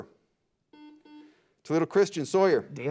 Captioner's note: beep